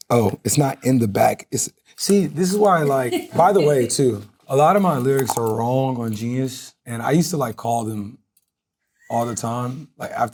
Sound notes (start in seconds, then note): 3.1 crew laughing